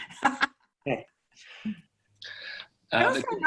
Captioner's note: laughs